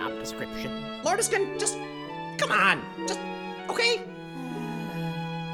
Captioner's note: sighs